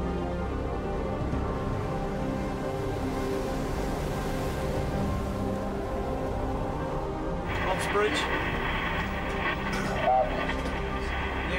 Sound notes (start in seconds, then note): 1.6 water gushing